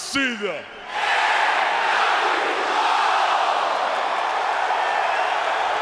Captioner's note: audience applauding and cheering